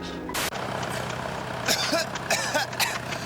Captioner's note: coughing; coughs